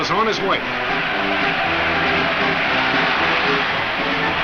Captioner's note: crowd cheers